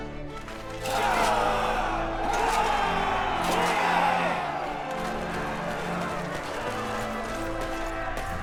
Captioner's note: applause